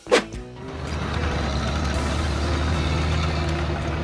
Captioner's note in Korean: 트랙터_소리.mp3